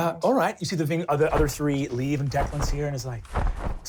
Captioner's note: wings flapping